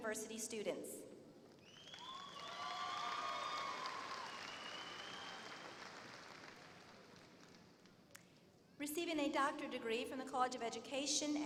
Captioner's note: applause